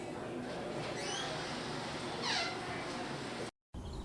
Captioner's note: door creaking; birds chirping